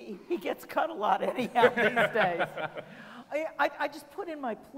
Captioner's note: laughing